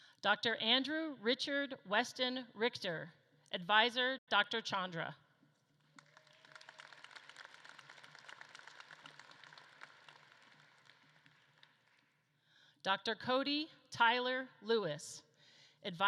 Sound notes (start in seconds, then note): 5.7 audience claps